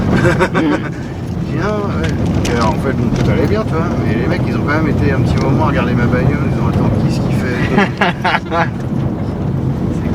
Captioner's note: laugh